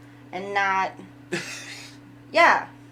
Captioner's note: laughs